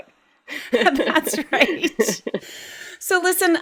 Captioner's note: laughs